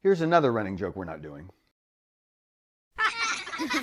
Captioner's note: laughter